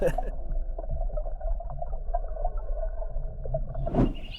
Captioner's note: laughs; water gurgling; screen whooshes; birds chirping